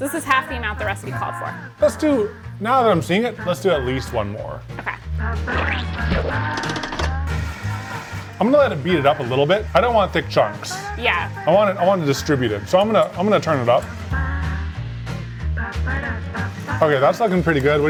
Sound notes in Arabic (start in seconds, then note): 6.5 طنين الخلاط; 13.9 موسيقى مبهجة